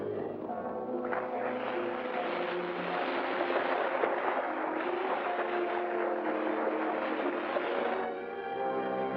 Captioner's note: water splashing; ominous music